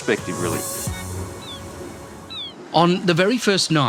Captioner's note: seagulls caw